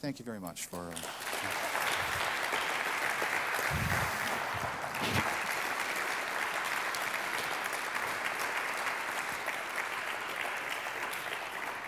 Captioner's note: applause